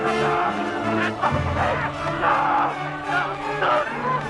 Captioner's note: Nepakin screaming